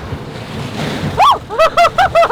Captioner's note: laughs; screams